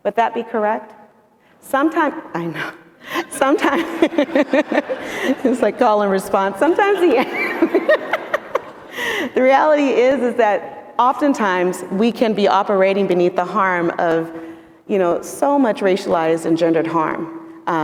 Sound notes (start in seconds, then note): 3.2 and adience laughing; 6.6 all continue laughing